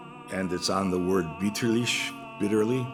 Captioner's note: german